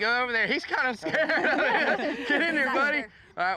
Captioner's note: everybody laughs